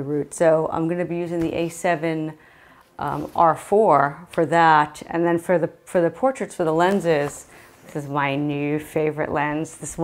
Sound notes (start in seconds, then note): none